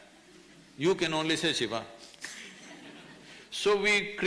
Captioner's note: few laugh